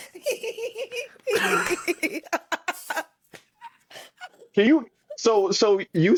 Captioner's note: laughter